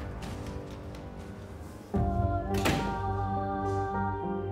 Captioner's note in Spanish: sonido al cerrar la puerta